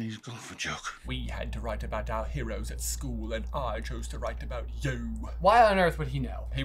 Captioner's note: accented